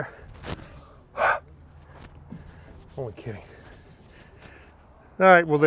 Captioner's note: exhales